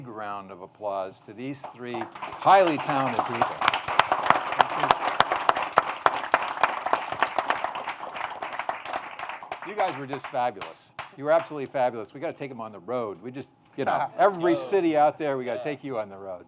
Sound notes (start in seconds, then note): 7.9 applause